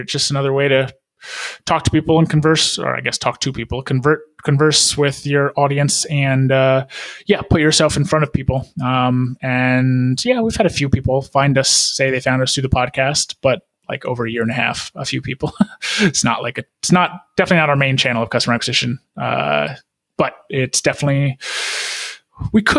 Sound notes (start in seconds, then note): 15.4 laughing